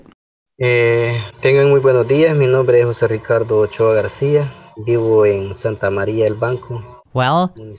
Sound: foreign Language

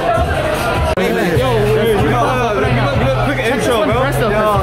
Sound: group talking

